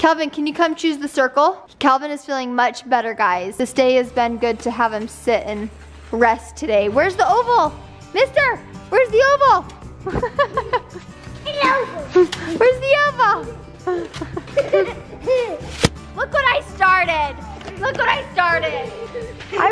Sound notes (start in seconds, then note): 10.0 laughing